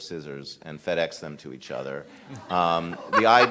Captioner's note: all laughing